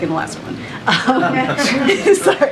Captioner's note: laughter